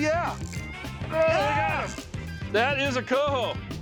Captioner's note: both shouting